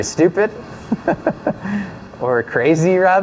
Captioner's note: laughs